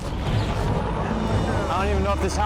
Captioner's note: sound of helicopter rotors